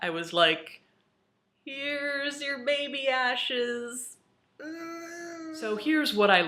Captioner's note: groans